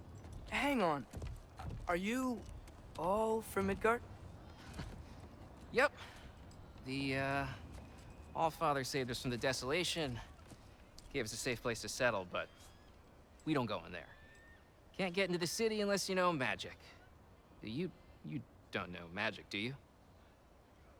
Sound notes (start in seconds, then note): 4.5 laugh